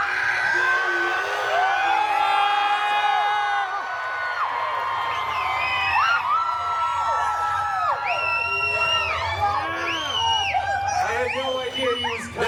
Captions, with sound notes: the Wolver-beast! [guests cheering, screaming and whistling] I had no idea he was coming.